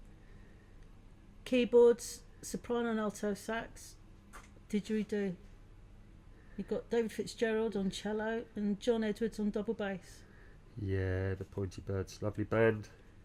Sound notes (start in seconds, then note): none